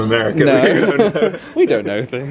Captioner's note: chuckles